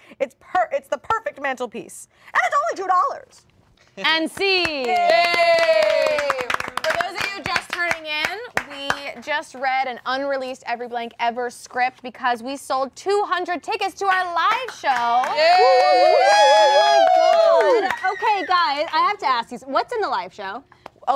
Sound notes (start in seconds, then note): 15.3 all cheering